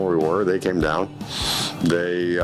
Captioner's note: sniffling